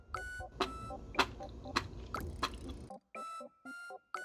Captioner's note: sound jackpot